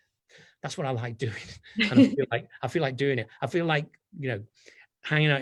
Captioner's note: laughs